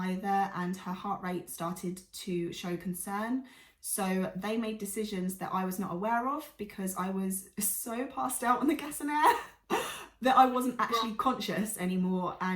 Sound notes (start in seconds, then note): 10.7 laughs